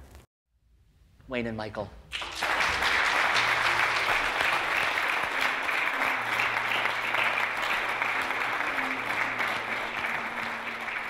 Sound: applause

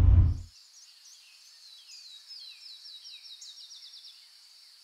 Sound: birds chirping

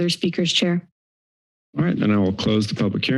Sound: silence

